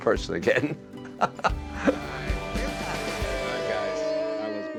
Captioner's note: laughs